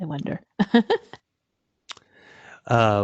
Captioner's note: chuckles